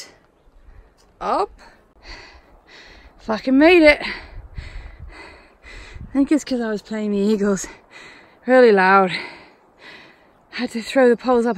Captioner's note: heavy panting